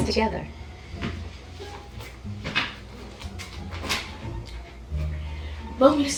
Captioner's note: light-hearted music; objects thudding